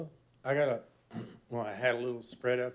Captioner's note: clears throat